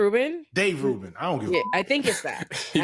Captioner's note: beep